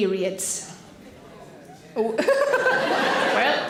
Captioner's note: people groans